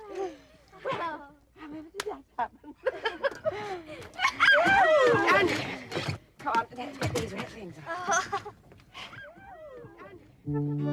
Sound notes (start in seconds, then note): 5.5 laughs